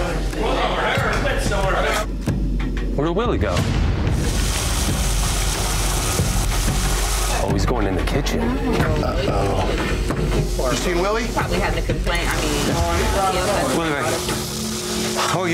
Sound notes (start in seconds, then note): 0.2 indistinct customer chatter; 4.4 water running